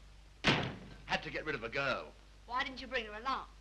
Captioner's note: door slams